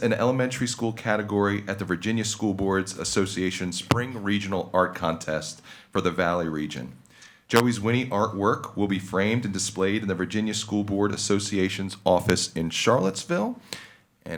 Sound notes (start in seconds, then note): none